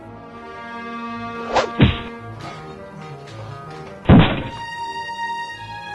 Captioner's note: whip! thunk! thud!